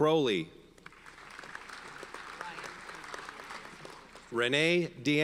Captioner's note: audience applauds